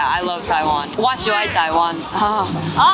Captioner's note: taiwanese Hokkien